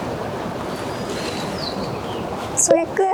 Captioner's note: rustle rustle